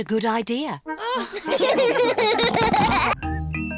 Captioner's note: all laugh